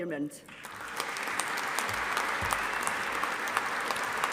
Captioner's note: audience applauding